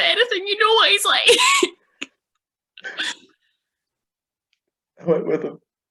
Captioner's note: cries